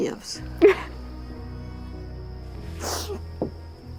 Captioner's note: sobbing